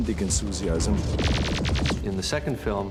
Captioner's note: guns zapping